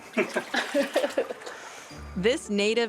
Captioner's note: laughter